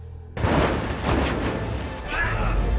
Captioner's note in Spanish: Ruido del motor